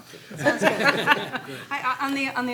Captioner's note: laughing